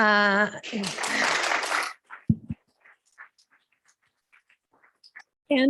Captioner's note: applause